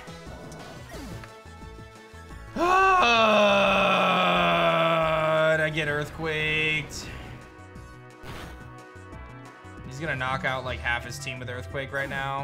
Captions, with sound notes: (grunts) And I get Earthquaked. He's going to knock out like half his team with Earthquake right now.